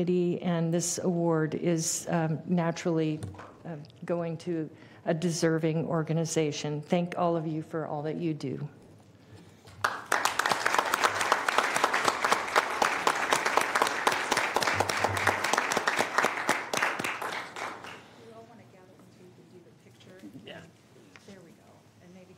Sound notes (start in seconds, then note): 14.9 applause